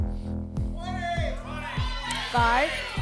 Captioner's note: audience shouting numbers